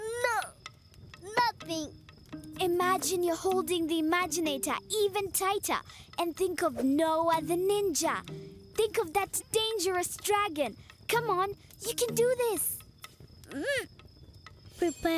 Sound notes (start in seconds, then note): 12.7 grunting